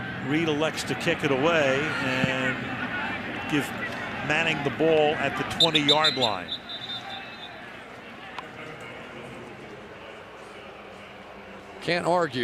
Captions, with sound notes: But Reid elects to kick it away and give Manning the ball at the 20-yard line. [whistle] [pa announcement]